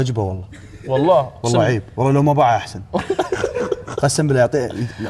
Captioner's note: laughs